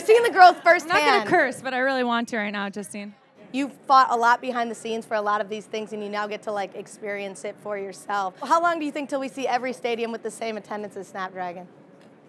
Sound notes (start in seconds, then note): none